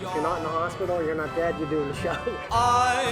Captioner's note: chuckles